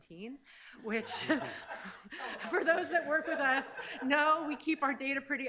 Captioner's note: laughs